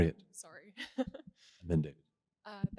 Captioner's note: laughs